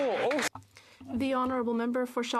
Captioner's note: applause